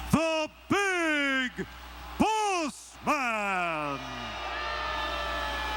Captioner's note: crowd chattering